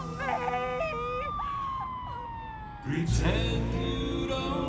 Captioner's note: siren wailing